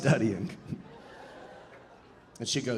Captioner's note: audience laughing